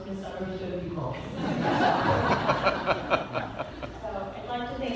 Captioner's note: laughter